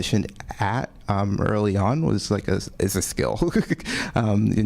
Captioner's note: laughs